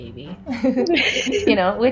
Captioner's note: laughs